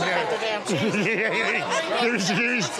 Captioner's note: laughter